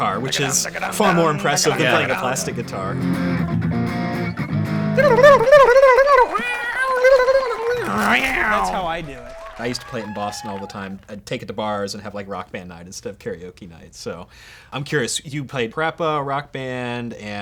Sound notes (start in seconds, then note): 4.4 guitar playing; 5.8 makes guitar sounds